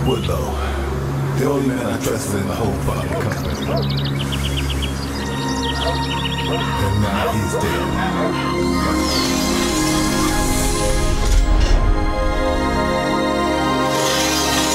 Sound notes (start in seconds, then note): 10.4 sliding door slams